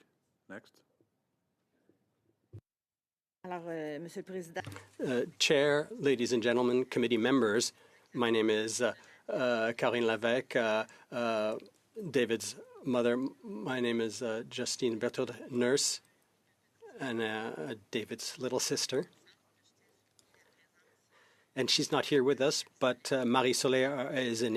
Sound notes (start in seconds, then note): 13.3 speaking French